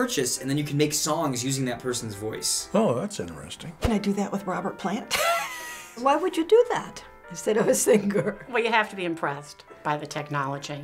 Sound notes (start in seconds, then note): 5.5 snickers